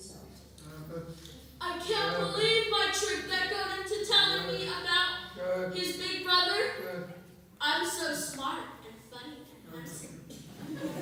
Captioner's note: laughter